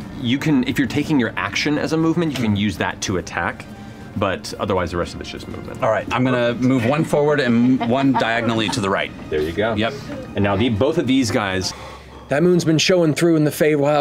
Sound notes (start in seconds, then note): 7.4 laughter